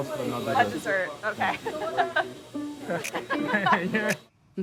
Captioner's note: laughs